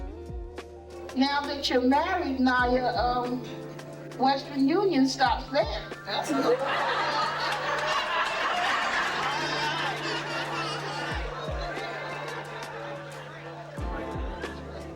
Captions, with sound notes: - Now that you're married, Nia, Western Union stops there. [Laughter] [Calm instrumentals]